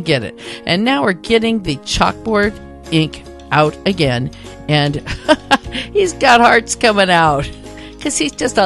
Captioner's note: chuckle